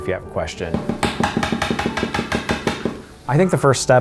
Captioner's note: tapping